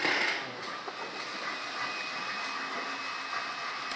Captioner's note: machine whirring in the background